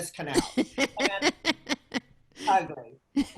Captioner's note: laughing